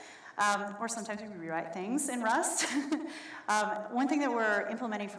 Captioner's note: chuckles